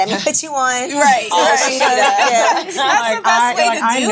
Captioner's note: ladies laughing